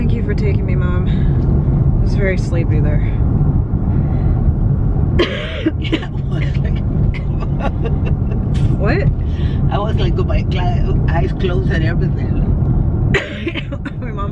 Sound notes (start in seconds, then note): 5.2 cough; 7.0 laughs; 13.1 cough